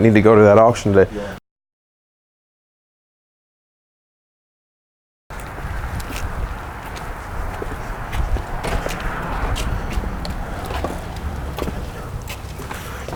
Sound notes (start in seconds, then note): 5.3 footsteps